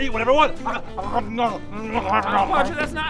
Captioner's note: om nom nom